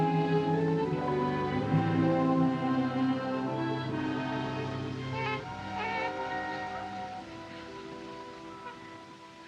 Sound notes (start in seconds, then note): 5.0 cooing